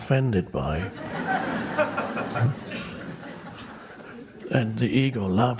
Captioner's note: crowd laughs